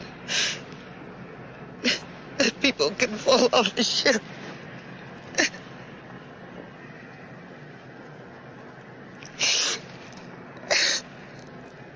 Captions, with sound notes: that people can fall off the ship. (Sylvia crying)